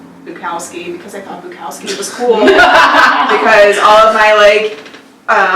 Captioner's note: laughs